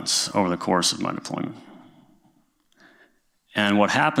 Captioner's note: none